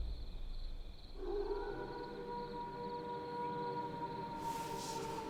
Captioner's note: werewolf howling